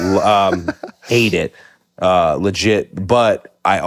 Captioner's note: Finn laughs